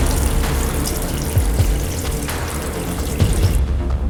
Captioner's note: oil bubbling; tense music